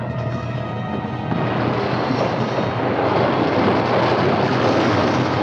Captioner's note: suspenseful music continues; water gushing